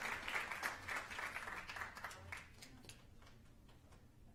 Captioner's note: applause